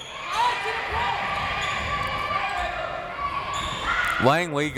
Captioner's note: crowd members shouting